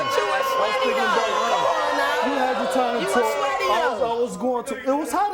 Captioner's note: audience oohs